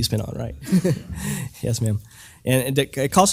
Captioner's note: laugh